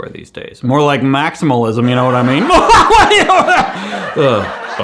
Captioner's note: laughs